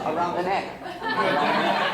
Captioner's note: laughter